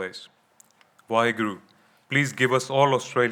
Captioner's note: speaking in foreign language